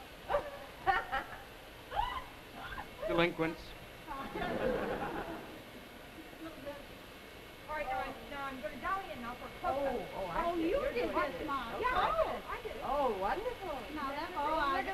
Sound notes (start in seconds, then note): 0.3 women laugh; 4.2 audience laughs; 7.7 women chatter; 13.8 women chatter, laugh